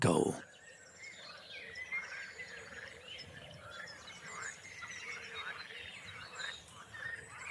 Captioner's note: birds chirping; frogs croaking